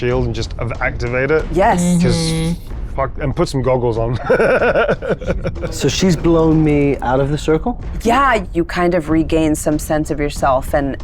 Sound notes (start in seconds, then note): 4.2 laughs